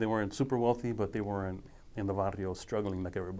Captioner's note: speaking foreign language